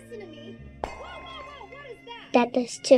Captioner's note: glass shattering